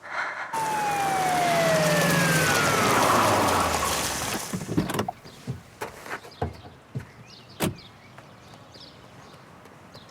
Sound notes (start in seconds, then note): 0.5 siren